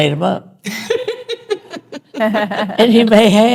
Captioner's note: all laughing